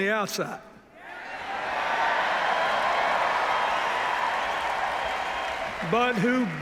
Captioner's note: cheers, applause